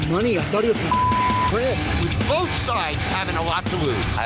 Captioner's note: beep